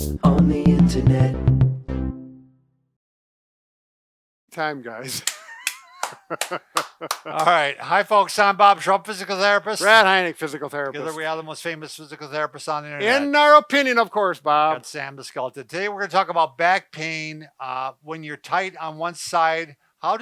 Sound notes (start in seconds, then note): 5.0 laughing; 5.1 clapping